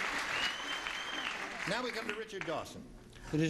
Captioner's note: ringing, applauding